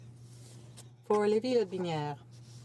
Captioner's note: speaking French